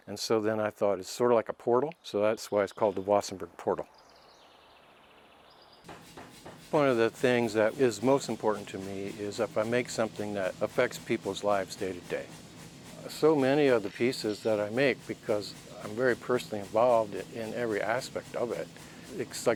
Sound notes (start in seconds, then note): 5.7 machine bangs